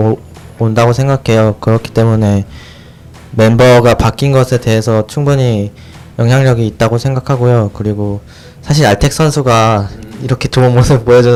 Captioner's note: laughs